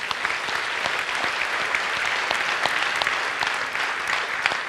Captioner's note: audience applauds